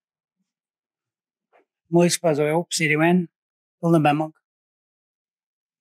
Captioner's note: speaking in Passamaquoddy